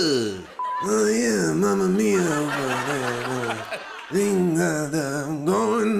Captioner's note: laughter